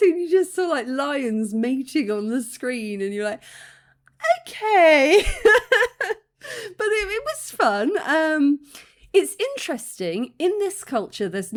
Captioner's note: laughing